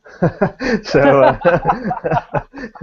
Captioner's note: both laugh